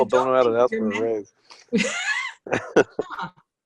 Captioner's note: laughter